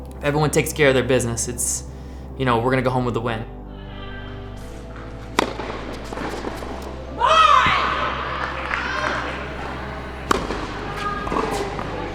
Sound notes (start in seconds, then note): 7.2 cheering